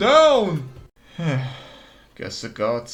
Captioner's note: sigh